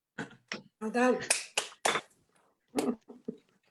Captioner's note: claps loudly